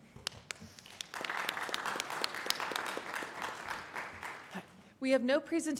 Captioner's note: applause